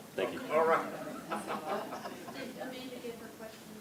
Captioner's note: laughs